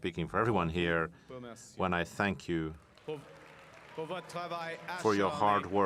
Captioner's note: cheering and Applause